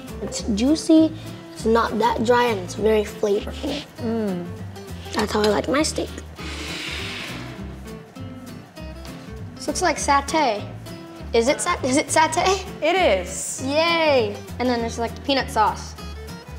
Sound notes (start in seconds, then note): 6.8 scraping